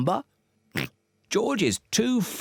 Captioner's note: oinks